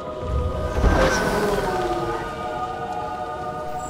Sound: drone buzzes

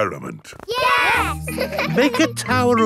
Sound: laughing

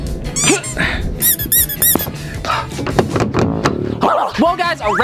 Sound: ball squeaking

